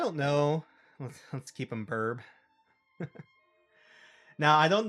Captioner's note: reading chat, laughing